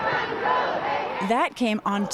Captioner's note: chanting